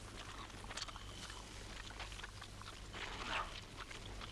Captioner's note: Torente chewing